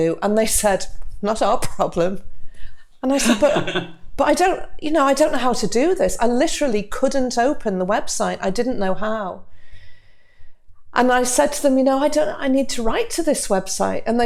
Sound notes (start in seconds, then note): 3.2 chuckles